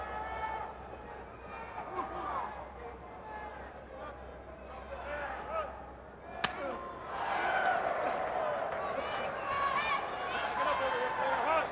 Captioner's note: crowd chatter